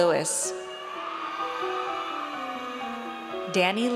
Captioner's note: audience cheers